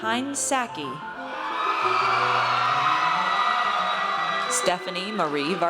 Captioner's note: audience cheers